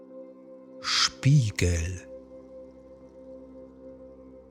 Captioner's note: german